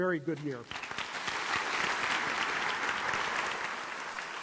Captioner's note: applause